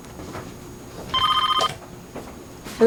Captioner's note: phone rings